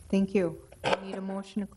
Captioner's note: none